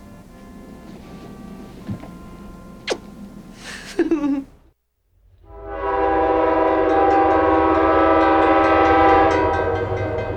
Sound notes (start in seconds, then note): 5.4 train whistle blows